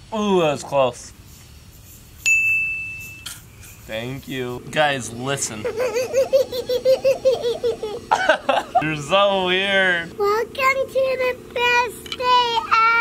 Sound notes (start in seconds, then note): 2.2 ding; 5.4 laughing; 5.7 vocalizing